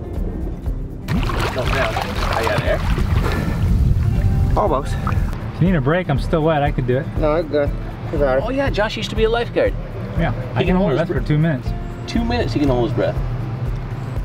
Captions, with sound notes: (water splashes) - Almost. - If you need a break, I'm still wet. I can do it. - No, I got it. It's all right. - Oh yeah, Josh used to be a lifeguard. - Yeah, I can hold for two minutes. - Two minutes he can hold his breath.